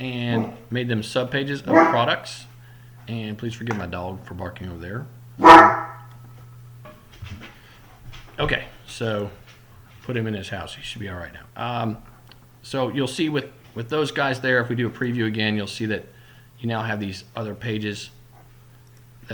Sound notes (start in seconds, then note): 0.0 barking; 1.6 growling; 5.4 barking